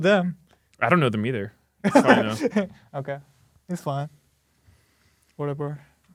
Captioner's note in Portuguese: risos